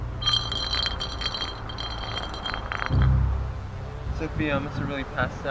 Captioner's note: bottle scraping the ground